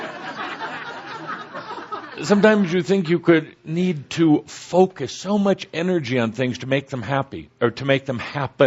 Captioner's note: laughter